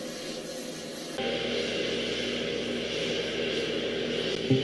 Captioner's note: airplane Cockpit sound